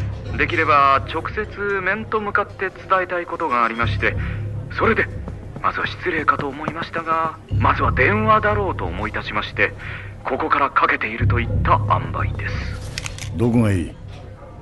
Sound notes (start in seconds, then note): none